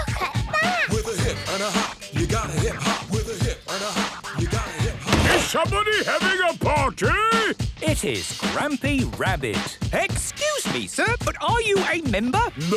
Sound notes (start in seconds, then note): 5.2 shouts